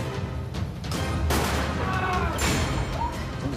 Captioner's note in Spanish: Disparo